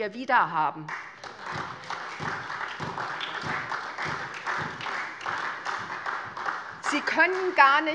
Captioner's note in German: Beifall SPD